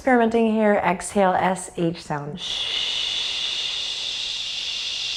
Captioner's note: shushes